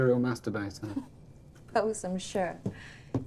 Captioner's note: Eloise laughing